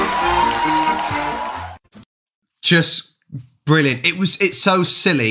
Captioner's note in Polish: Aplauz